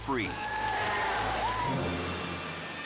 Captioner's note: group cheering